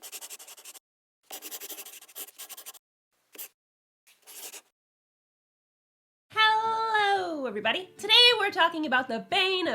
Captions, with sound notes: (The sound of a pen scratching.) LOGO. Hellooo everybody! Today we're talking about the bane